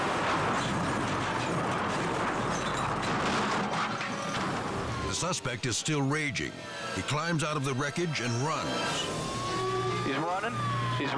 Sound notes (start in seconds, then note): 1.3 dramatic music; 1.3 truck crashing